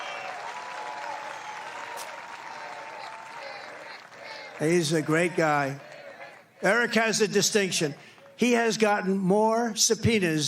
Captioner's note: cheering